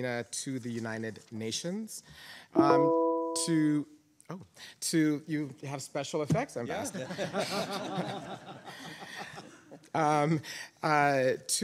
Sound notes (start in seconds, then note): 2.6 device chimes; 6.8 panelists laughing